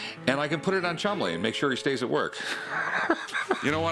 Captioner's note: laughs